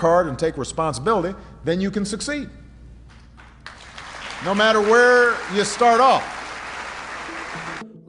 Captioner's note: applause